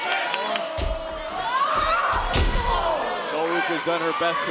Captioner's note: audience cheering